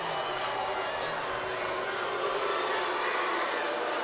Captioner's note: crowd boos